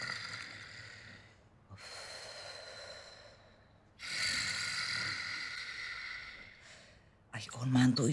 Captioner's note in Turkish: Horluyor